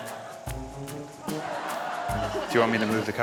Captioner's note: laughter